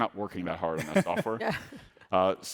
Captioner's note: laughing